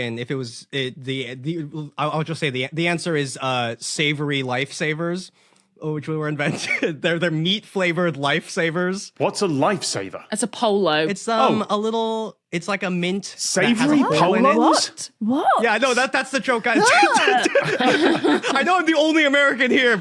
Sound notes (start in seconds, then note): 16.6 group laughing